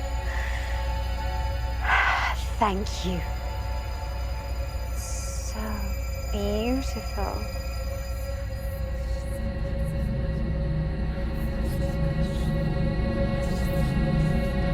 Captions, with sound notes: (exhales sharply) Thank you. It's so beautiful. (faint whispering)